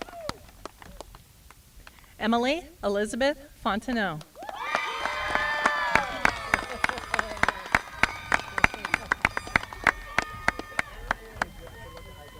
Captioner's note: applause